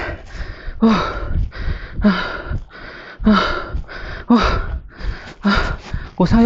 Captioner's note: heavy panting